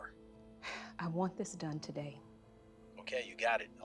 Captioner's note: sighs